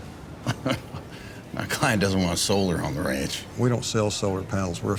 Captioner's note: laughs